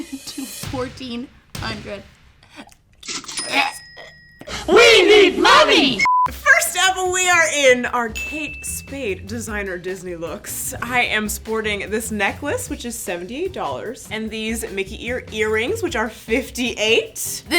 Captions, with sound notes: to $1,400. (hosts make choking sounds) - We need money! (beep) - First up, we are in our Kate Spade designer Disney looks. I am sporting this necklace, which is $78. And these Mickey ear earrings, which are 58.